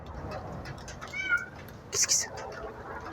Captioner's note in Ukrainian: Нявкання